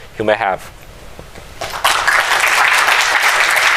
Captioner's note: applause